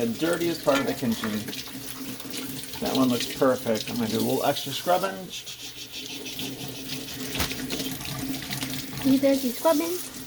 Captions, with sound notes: the dirtiest part of the kitchen. (Water sounds) That one looks perfect. I will do some extra scrubbing, ("Scrubbing sounds") So there's your scrubbing.